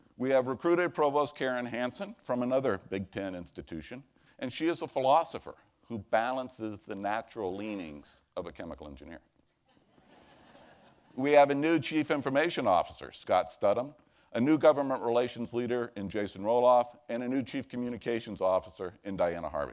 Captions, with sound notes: WE HAVE RECRUITED PROVOST KAREN HANSON FROM ANOTHER BIG 10 INSTITUTION AND SHE IS A PHILOSOPHER WHO BALANCES THE NATURAL LEANINGS OF A CHEMICAL ENGINEER. [ Laughter ] WE HAVE A NEW CHIEF INFORMATION OFFICER, SCOTT, A NEW LEADERS IN JASON ROLLOFF AND A NEW COMMUNICATIONS OFFICER IN DIANA HARVEY.